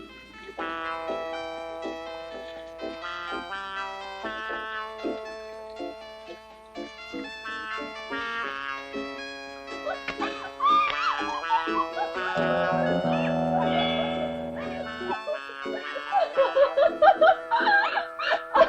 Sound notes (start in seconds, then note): 10.1 Gail shrieking happily; 14.9 Gail laughing